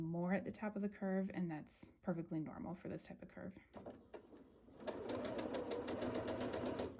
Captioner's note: sewing